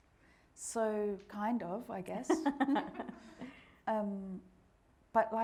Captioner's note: all laughing